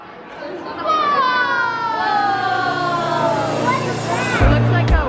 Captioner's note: kids exclaim